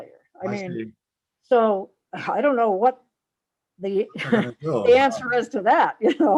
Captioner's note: laughs